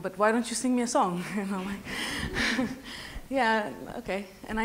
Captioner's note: laughs